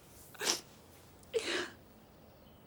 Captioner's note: Trina sniffing